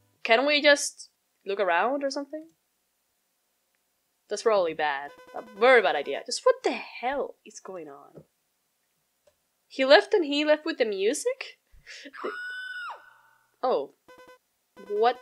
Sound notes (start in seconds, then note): 12.1 woman screams